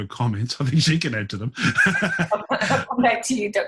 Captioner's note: laughs